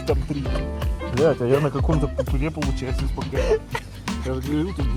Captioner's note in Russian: умирает от смеха